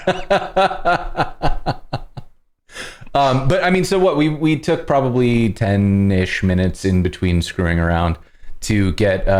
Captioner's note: laughter